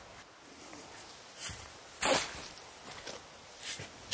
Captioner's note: shoveling